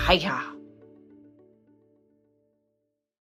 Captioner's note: silence